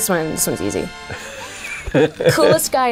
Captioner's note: laughing